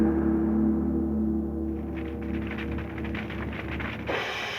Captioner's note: fire crackling; cymbal crashing